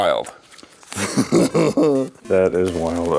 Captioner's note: Nick laughs